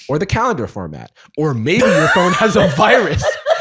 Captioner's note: laughing